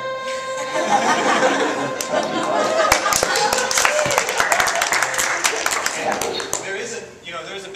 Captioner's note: audience laughs, claps